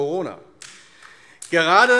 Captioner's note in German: Beifall AfD